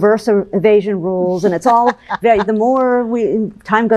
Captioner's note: laughs